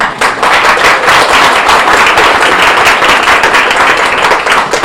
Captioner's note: audience applauding